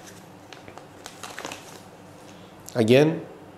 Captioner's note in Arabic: حفيف الغلاف